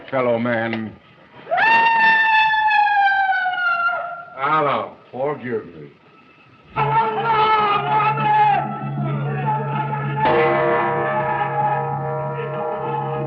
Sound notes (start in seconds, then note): 1.4 screaming; 6.7 screaming; 10.8 gong clanging